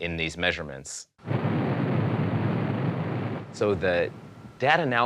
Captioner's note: low-frequency static